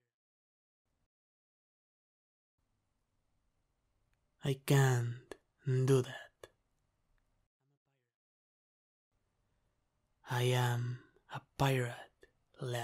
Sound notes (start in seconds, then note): none